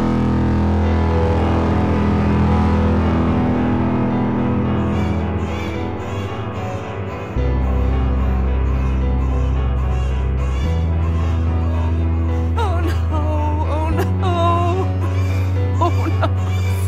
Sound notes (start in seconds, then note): 0.8 haunting music; 4.9 distant baby crying